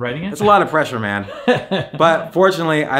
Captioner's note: chuckling